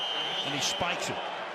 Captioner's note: whistle